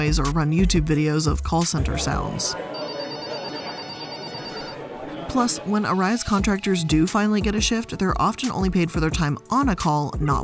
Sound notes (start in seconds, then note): 1.6 people chattering; 2.7 telephone rings